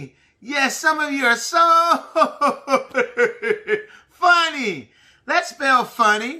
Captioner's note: laughing